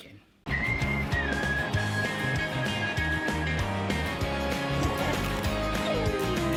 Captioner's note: upbeat music; lips whistling; dog whining